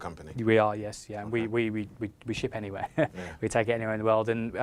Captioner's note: laughs